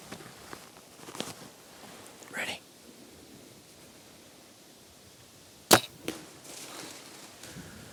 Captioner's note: whispering